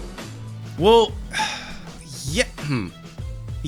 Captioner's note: sigh